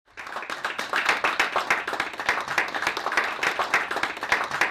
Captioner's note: audience applauds